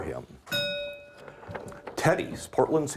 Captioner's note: bell ringing